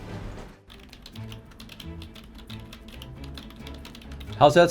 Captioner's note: keyboard clicking